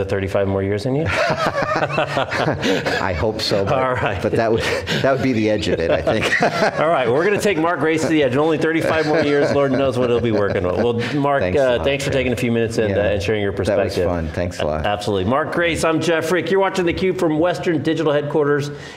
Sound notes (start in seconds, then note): 1.3 both laugh